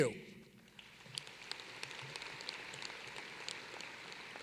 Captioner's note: applause